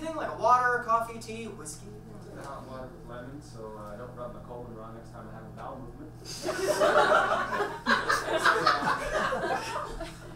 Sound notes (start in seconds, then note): 6.4 audience laughs